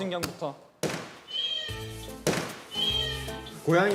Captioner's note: meow